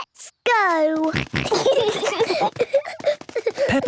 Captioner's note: snorting, giggling